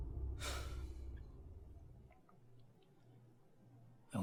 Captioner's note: Hank sighs